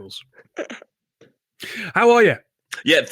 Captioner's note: laughs